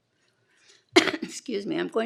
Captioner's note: coughs gently